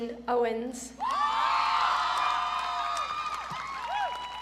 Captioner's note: audience cheering